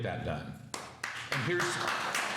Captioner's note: applause